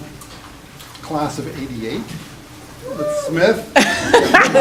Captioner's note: laughing; cheering